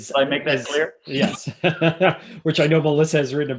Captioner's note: laughing